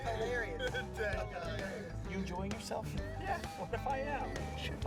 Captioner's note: laughs